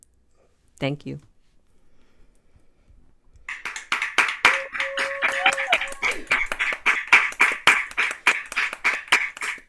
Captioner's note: applause